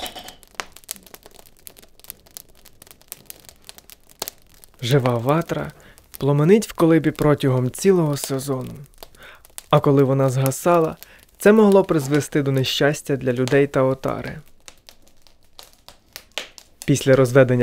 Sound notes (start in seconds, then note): 5.8 fire